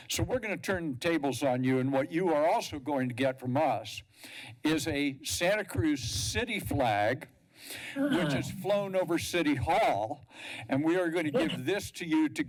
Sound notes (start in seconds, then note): 8.0 laughter